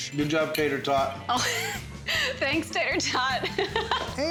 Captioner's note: laughing